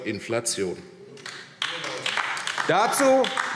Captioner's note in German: Beifall AfD